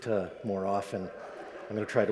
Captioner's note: audience laughs